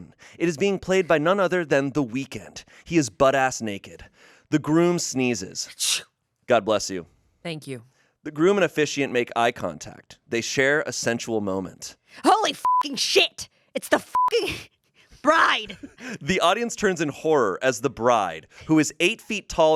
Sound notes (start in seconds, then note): 5.7 mimics sneeze; 12.6 beep